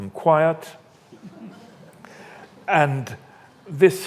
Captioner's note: audience laughs